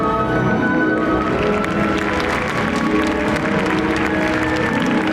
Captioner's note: audience applauds